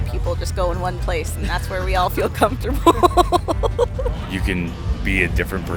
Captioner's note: laughing